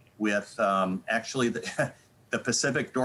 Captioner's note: chuckling